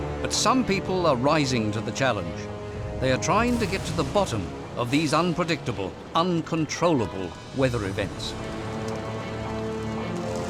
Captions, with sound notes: But some people are rising to the challenge. [thunderclap] They are trying to get to the bottom of these unpredictable, uncontrollable weather events.